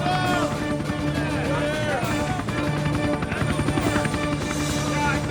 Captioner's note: soldiers shouting